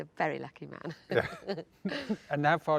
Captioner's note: both laugh